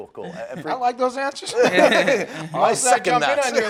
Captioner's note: laughing